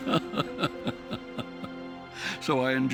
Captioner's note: laughing